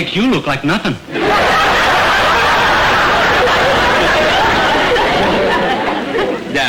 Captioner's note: audience laughter